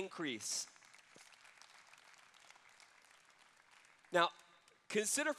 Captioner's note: applause